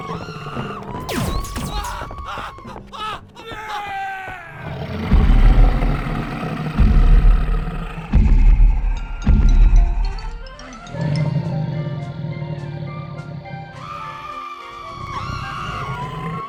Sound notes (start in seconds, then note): 4.4 yelling; 6.3 growling; 13.3 screaming